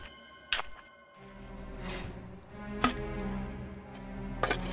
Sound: shovel crunches

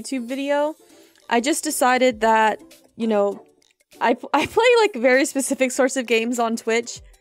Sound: laughter

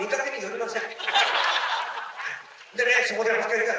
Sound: laughter

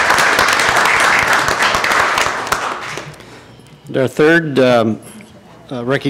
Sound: applause

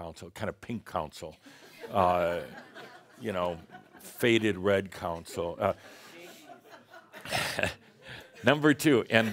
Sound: laughter

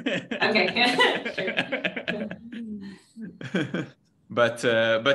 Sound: laughs

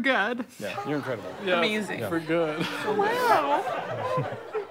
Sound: assenting

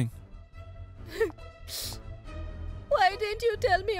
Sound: sniffles

